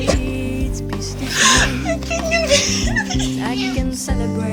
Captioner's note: crying